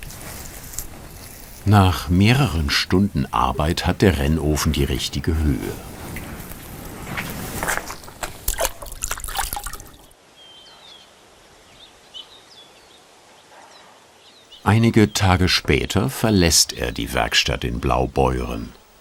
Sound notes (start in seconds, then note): 8.3 splashing; 10.2 birds chirping